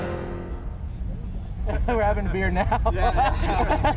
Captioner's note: laughter